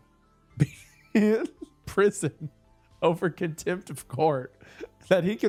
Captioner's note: laughs